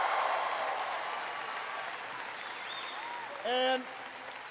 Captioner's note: applause